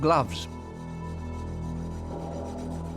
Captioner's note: rasping